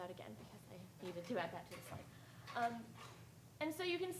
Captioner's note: speaking faintly